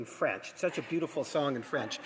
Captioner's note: some applause